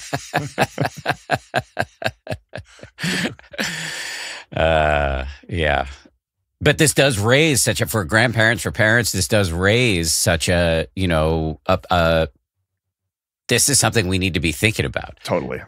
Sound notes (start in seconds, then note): 0.0 laughing